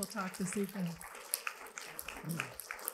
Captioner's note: applause